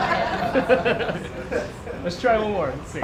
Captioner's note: laughter